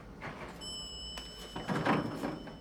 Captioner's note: lift pinging